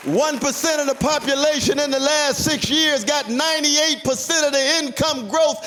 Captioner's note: applause